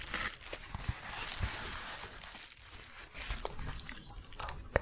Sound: shuffling and crinkling

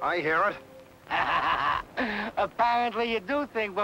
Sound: Malamos laughing

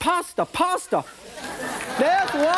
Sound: audience laughs

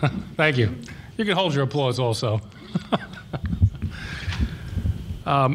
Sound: laughs

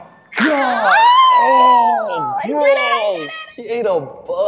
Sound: screams

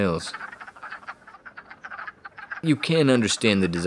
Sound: quacking

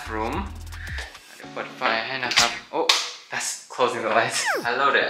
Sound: laugh

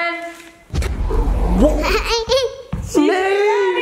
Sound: smoke rumbles

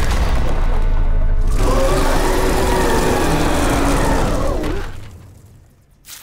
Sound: roaring

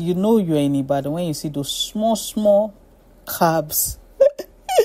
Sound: laughs

